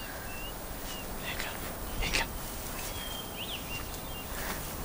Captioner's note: Whispers In Native Language